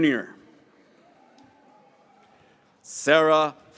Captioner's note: graduates cheering